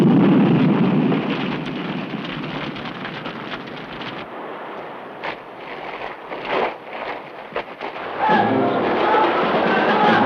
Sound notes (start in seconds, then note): 4.9 dramatic music; 4.9 villagers yell